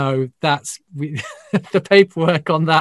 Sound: laughs

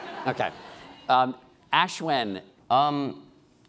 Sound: laughing

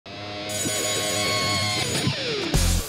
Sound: bell ringing, music playing

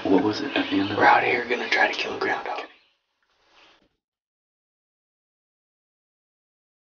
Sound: whispering

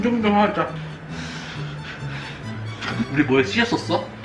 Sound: deep breaths

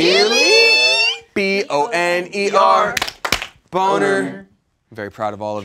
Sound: claps

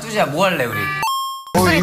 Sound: arcade game coin noise

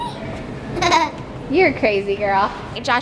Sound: laughs

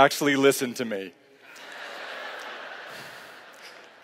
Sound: laughter

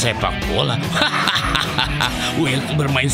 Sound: laughs

